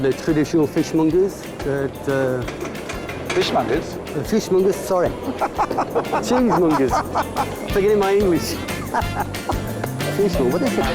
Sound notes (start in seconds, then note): 5.2 laughs